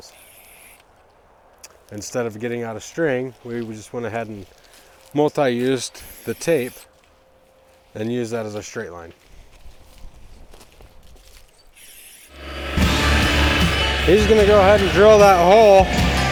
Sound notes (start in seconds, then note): 0.2 paint spraying sound; 11.8 paint spraying sound